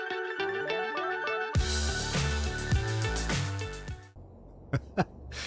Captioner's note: laugh